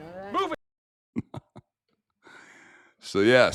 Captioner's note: laughs